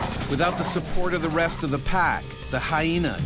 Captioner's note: voiceover